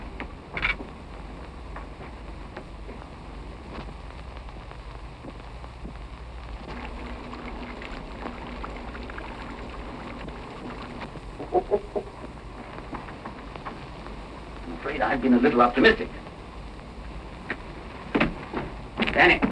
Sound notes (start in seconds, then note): 11.3 chuckling